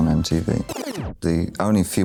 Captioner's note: record scratches